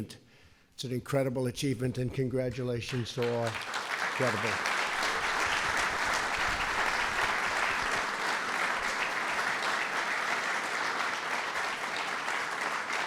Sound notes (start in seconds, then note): 2.8 applause